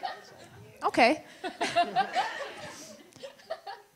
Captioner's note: audience laughter